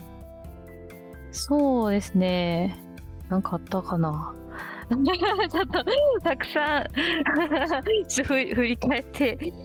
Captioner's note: laughs